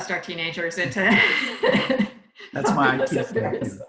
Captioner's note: laughs loudly